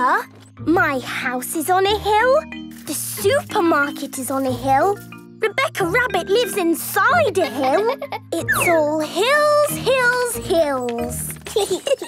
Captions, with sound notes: My house is on a hill. The supermarket is on a hill. Rebecca Rabbit lives inside a hill! (laughing) It's all hills, hills, hills! (giggling)